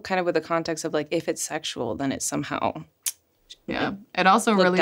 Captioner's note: clicks tongue